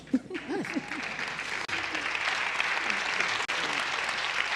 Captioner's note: applause